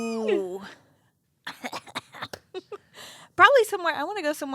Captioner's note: both laughing